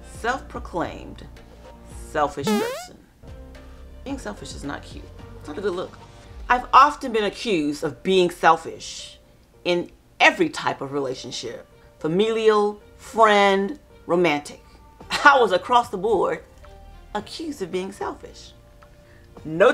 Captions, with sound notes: Self proclaimed, selfish person. (distorted sound) Being selfish is not cute, it's not a good look. I've often been accused of being selfish, in every type of relationship. Familial, friend, romantic. I was across the board accused of being selfish, notorious.